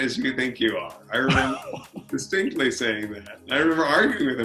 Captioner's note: laughing